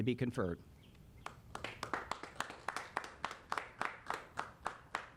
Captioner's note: applauding